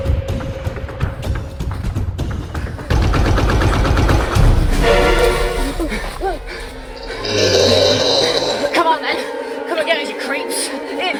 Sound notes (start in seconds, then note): 5.4 both panting breathless; 6.9 nearby creature roars